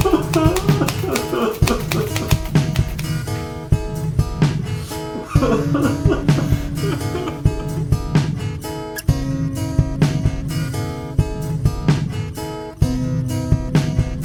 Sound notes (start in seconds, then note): 0.0 typewriter clacking; 4.9 Larry crying